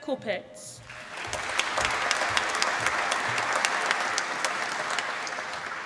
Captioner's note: applause